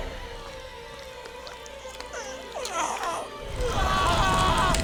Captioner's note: gasping